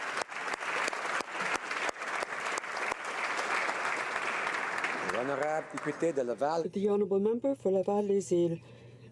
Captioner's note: applause